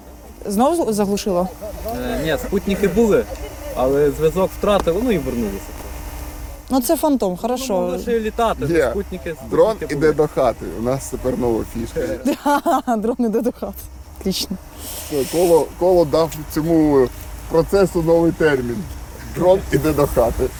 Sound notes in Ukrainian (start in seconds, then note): 12.0 сміється